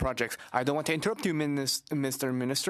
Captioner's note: speaking French